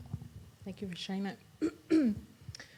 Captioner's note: clears throat